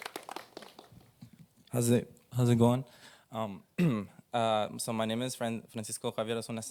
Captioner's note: applause